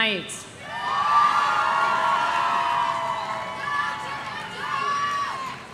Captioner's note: audience cheering